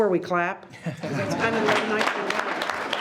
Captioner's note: all laughs